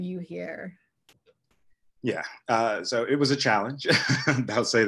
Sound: laugh

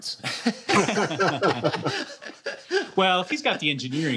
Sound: laughter

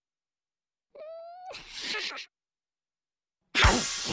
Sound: giggles

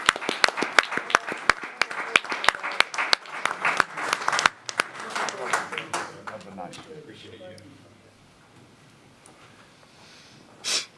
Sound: applause

